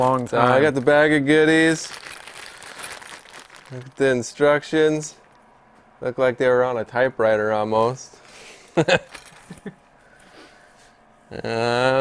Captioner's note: chuckle